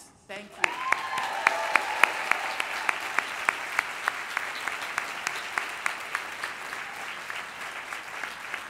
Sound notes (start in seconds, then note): 0.5 applause